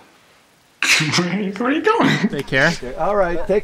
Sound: laughing

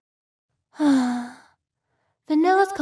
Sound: sigh

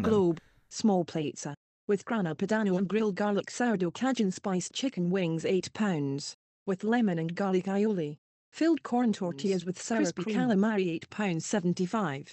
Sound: scottish voice reading text on screen, the spoken word is being highligted

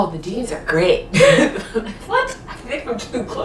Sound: laughing

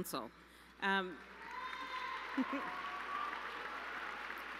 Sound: applause

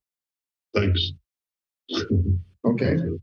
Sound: laughs

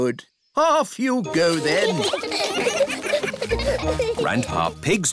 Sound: giggling

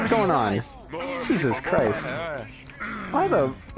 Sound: grunting sounds

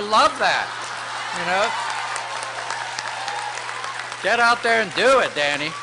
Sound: applause

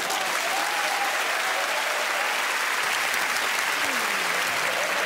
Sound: laughter, applause

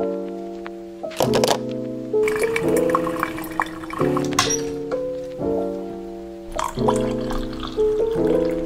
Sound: sounds of coffee being made

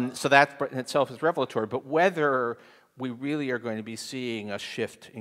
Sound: none

